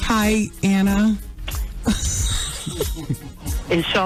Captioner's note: laughter